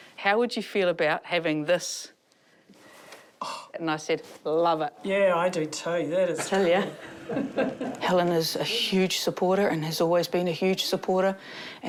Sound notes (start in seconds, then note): 3.6 gasps; 6.5 both chuckle